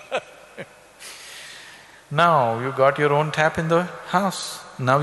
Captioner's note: laughs